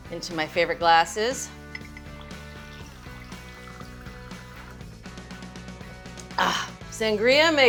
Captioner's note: upbeat pop-rock music; sangria trickles